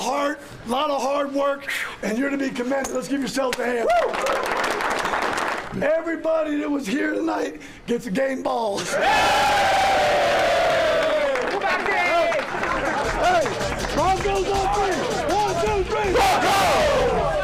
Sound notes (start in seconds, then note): 8.8 all cheering